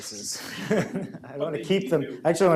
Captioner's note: audience laughs